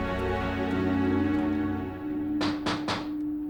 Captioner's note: knocking